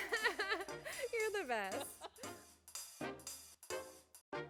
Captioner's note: laughter